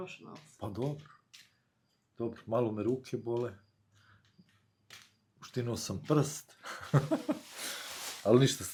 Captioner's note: laughs